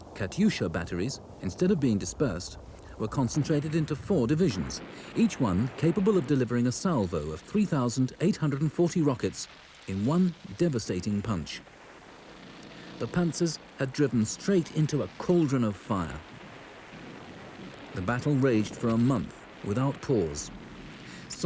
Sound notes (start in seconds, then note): 12.1 panzer purrs; 16.9 cannon blasts